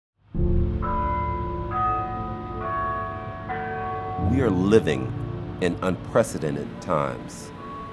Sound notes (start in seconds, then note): 0.1 solemn music; 0.8 bells chiming